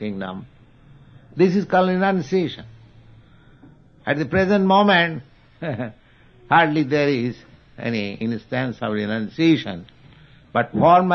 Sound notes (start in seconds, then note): 5.6 chuckles